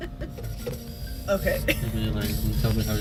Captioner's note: laughs